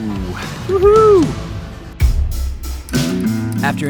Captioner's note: man cheers